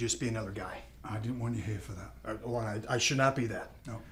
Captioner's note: none